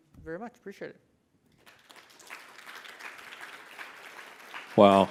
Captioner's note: audience applauds